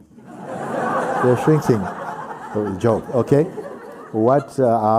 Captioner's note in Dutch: gelach